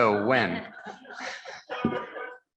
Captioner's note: members laughing